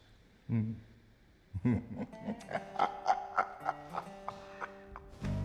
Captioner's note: chuckling